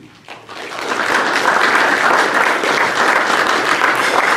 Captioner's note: crowd applauds